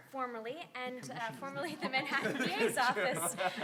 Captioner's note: laughs